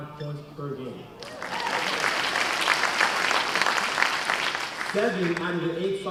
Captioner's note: cheers and applause